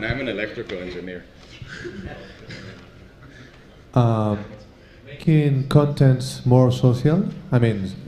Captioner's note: laugh